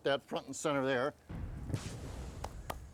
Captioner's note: explosion effect